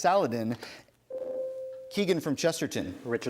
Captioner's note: ding